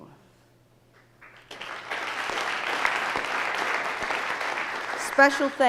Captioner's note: audience applauding